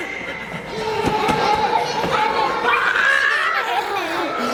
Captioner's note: laughing